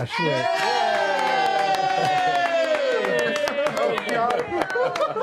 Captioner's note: cheering